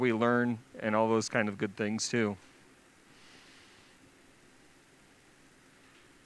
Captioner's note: silence